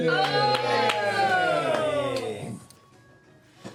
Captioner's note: cheering